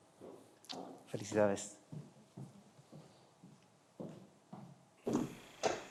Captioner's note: speaking in foreign language